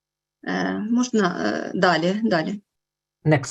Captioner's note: foreign Language Spoken